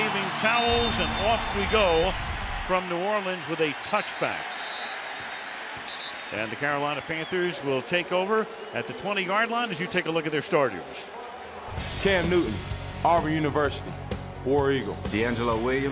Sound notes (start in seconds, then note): 4.0 whistle blows; 11.8 upbeat music